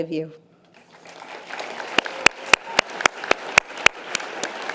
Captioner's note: audience applause